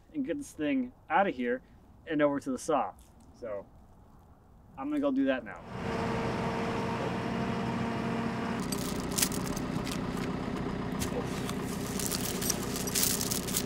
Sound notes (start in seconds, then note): 5.6 forklift engine roaring; 8.6 chain rattling